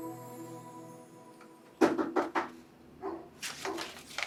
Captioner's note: dog barking; fervent knocking